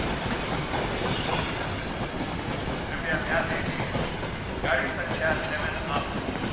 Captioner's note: train announcement